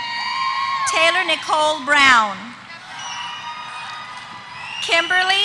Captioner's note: applause